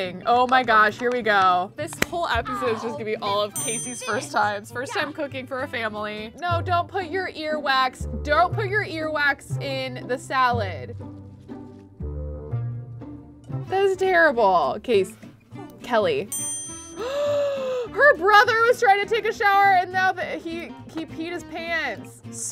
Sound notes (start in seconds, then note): 17.0 gasping